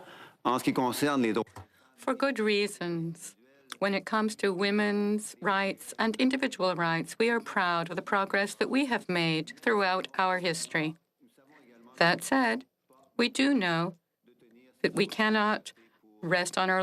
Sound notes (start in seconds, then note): 4.3 speaking French